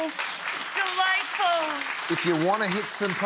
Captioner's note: audience applauding